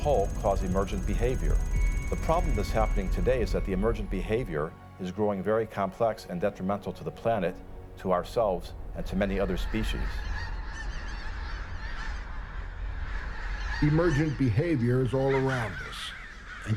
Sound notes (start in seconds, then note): 9.3 geese call